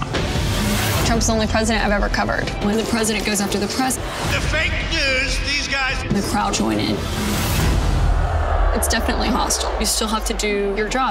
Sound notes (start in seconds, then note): 7.7 crowd jeers